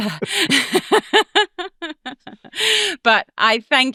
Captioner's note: both chuckling